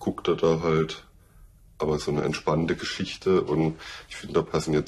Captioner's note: none